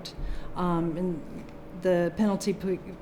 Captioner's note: none